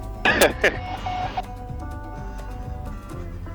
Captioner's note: plane equipment beeping; laughing